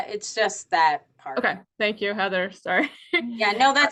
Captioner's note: chuckles